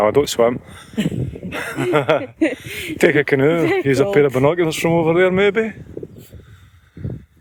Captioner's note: laughter